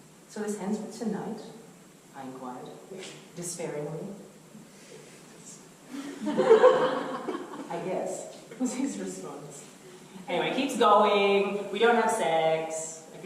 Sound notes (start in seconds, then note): 6.2 audience laughter